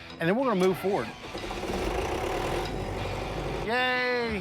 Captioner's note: generator starting